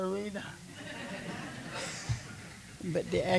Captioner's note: laughter